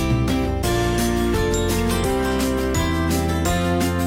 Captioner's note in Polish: dzwonek